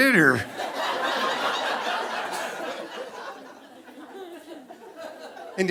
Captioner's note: audience laughing